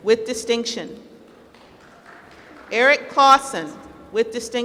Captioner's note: applause